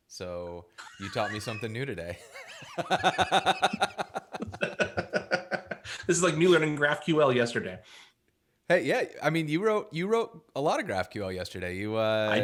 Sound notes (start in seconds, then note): 2.1 laughs